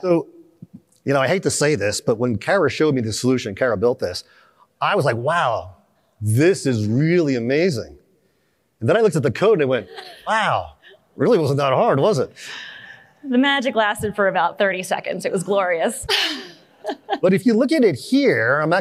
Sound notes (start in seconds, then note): 16.1 laughter